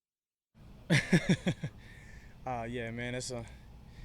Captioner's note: chuckles